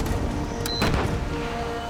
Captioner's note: beep